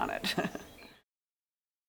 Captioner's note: laugh